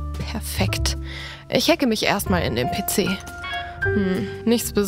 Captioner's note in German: Piepsen